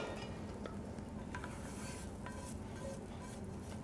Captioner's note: sound of spatula scraping pan